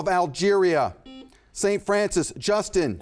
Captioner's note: buzzer buzzes